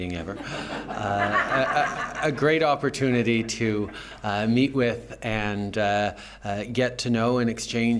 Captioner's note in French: Rires